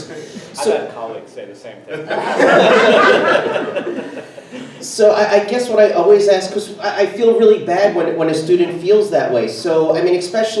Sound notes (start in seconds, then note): 2.0 everyone laughs